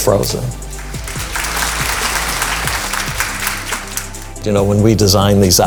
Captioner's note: applause